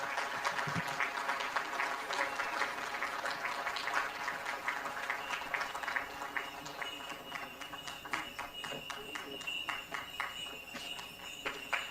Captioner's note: applause